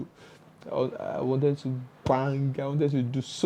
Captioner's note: bang..!